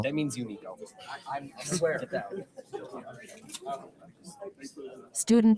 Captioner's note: people chatter indistinctly